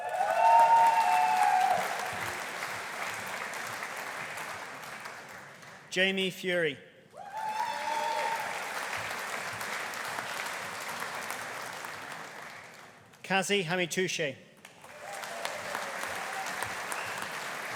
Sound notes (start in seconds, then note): 0.0 audience cheering; 0.0 audience applauding; 7.2 audience cheering; 7.2 audience applauding; 14.7 audience applauding